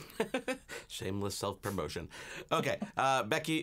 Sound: laughing

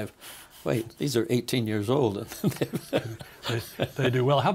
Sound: laughing

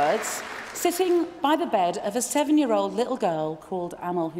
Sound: applause

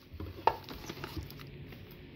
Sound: cans rustle

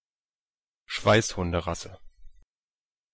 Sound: fast Pronunciation

